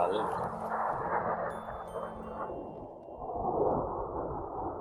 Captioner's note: plane engine roaring